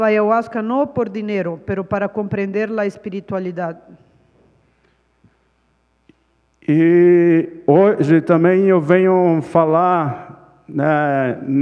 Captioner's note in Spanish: Ponente habla en portugués; Ponente habla en portugués